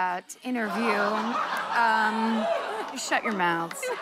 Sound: laughter, audience "ohhs"

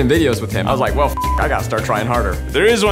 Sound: beeps

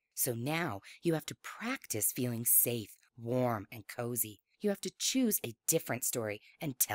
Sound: none

